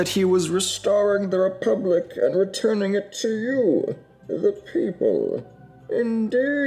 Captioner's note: In Bane voice